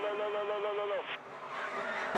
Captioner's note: radio